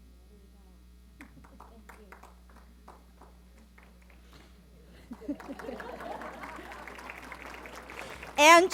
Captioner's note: applause